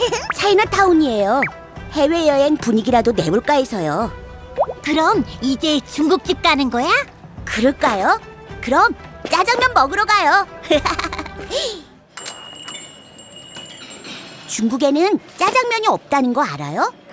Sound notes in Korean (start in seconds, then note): 0.0 설레는 웃음; 12.2 딸랑, 가게 방울 울리는 소리